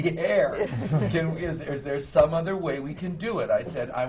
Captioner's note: laughter